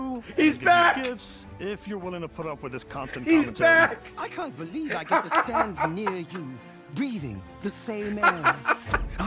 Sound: laughs

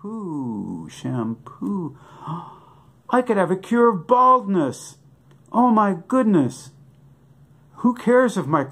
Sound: gasp

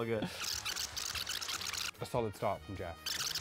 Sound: tape screeches

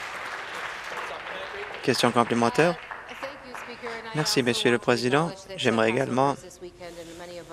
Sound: applause

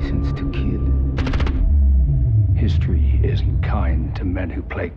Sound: gun fires

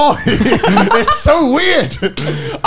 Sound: men laughing

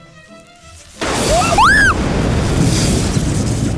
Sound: screams

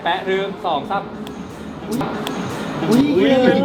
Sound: slap!

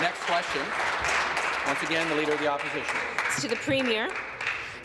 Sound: applause

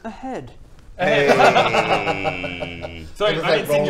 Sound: frosty laughter

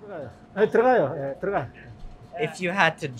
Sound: speaking in Korean

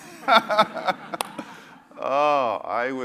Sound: laugh

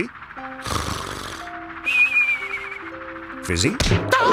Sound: snoring

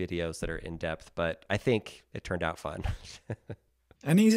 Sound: laughs

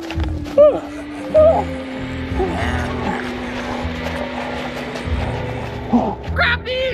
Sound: evil Clown Laughter

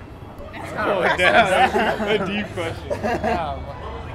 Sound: laughs

